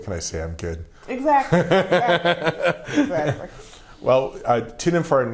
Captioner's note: laughing